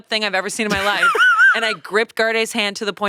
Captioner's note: laughing